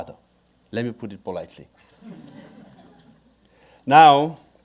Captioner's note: audience laughing